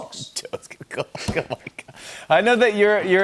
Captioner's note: chuckling